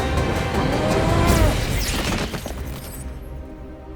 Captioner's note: zapping